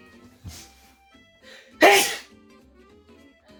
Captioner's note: loud ass sneeze